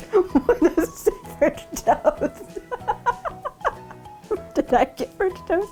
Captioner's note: laughing